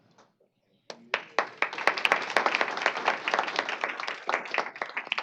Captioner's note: applause